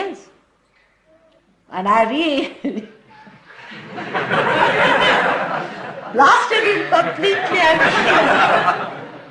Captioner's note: Shri Mataji burts into laughter; laughter